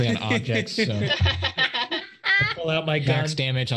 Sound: group laughs

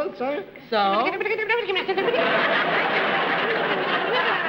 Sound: chattering

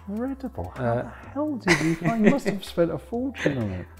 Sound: laughs

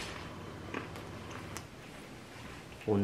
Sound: chewing

